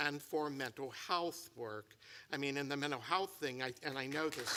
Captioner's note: applause